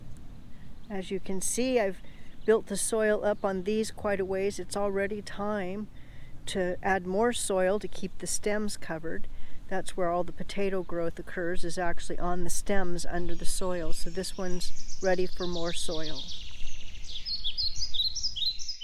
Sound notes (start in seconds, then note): 16.5 birds singing